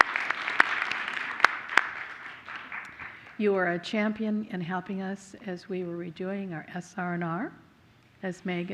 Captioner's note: applause